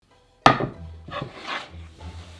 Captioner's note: board sliding